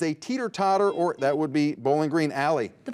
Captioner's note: buzzer buzzes